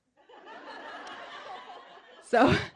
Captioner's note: audience laughing